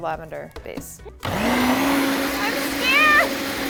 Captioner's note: blender whirring